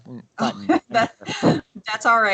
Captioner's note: laughs